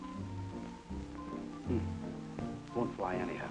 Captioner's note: scoffs